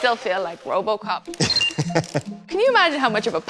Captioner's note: roboticist laughs